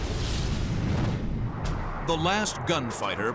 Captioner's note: explosion